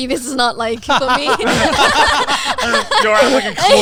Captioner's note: everyone laughing